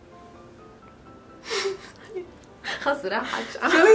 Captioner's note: giggling; laughs